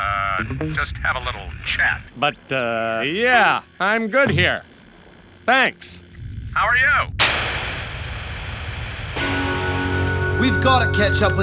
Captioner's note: static noises